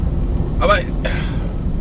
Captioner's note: sigh